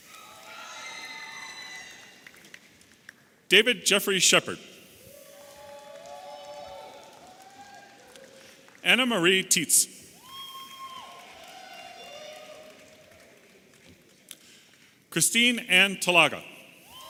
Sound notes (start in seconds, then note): 0.0 audience applauding and cheering; 5.0 audience applauding and cheering; 10.1 audience applauding and cheering